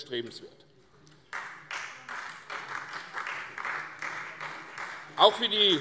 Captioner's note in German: Beifall CDU